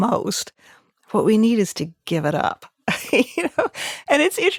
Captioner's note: laughs